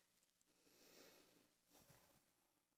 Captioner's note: sighs